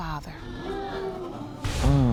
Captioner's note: groans; audience gasps